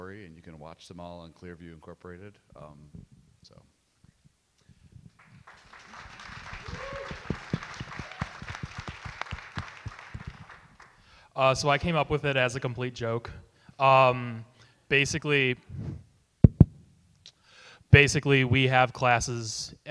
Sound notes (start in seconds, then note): 5.2 audience cheer and clap